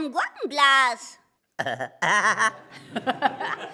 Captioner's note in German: lacht; Quäkendes Lachen